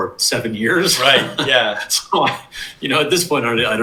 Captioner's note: laughs